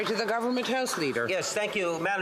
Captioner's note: applause